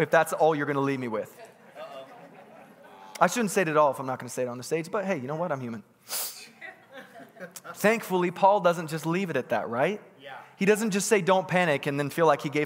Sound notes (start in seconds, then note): 6.5 congregants laughing